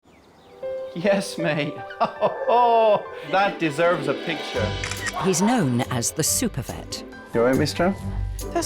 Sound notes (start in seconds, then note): 0.0 birds chirping; 1.0 bright music